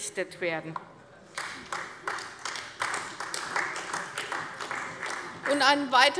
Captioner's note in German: Beifall bei der CDU